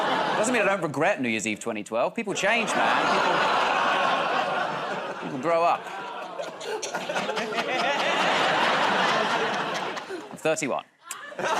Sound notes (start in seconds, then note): 2.4 audience "Oh"s; 7.5 laughter